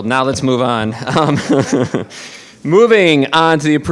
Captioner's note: laughing